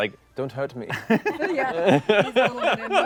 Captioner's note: laughter